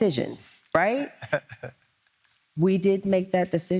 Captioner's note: chuckling